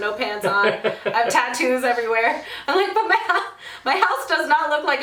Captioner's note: laughs; laughs